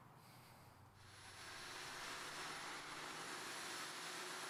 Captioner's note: vacuum whirring